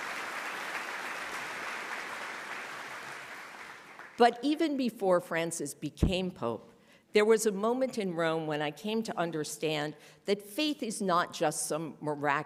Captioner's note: applause